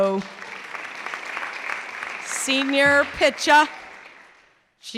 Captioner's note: clapping